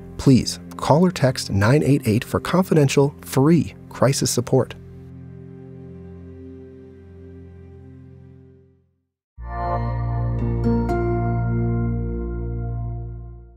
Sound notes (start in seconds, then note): 5.1 calm music continues; 9.4 logo chiming